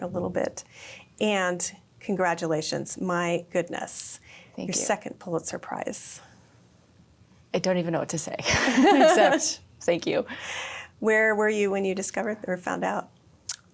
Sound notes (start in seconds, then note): 8.5 laughs